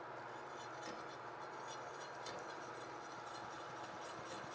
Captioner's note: whisk whirring